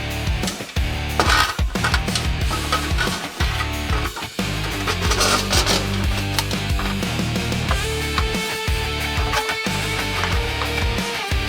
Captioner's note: sound of Metal Chattering